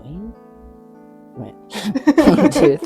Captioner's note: laughs